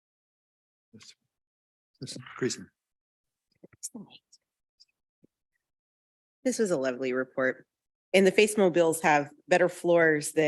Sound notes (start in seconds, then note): 4.0 mumbles